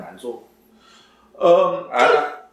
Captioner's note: nonverbal grunt as interjection